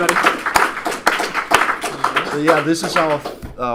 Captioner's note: applause